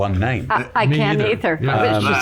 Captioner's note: laughs